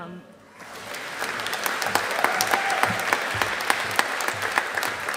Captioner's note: audience applauding